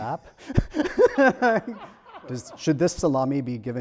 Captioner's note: laughs